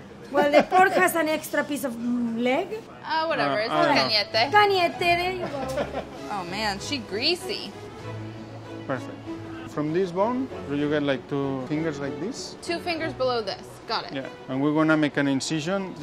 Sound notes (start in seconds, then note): 4.9 speaking in foreign language